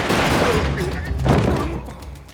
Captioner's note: grunting